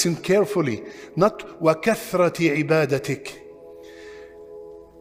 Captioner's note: Arabic